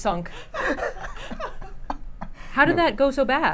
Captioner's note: laughs